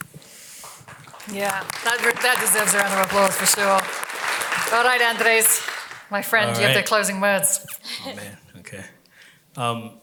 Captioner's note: applause